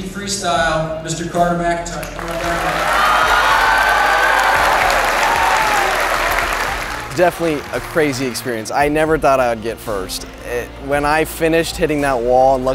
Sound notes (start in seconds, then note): 2.0 audience cheering